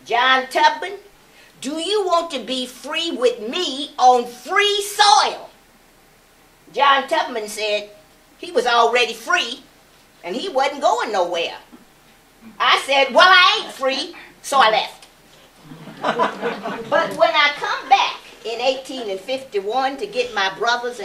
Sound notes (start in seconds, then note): 15.6 laughter